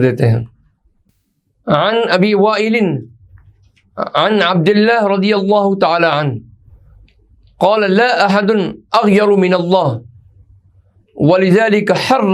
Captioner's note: hadeeth in Arabic